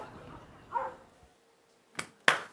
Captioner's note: applause